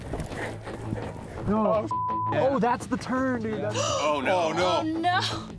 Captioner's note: beeping